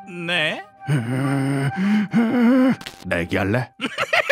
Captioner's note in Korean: 쒸익쒸익